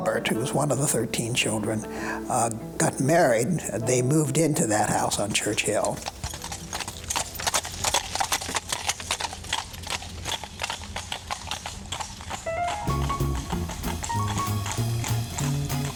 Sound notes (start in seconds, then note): 6.7 horse hooves clacking; 12.5 upbeat music